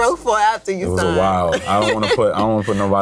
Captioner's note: laughs